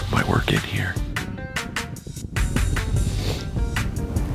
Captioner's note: wing whooshing